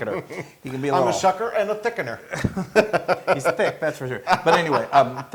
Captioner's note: laugh